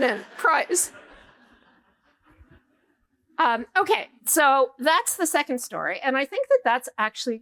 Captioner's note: laughter